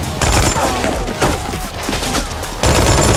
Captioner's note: officers shouting in Spanish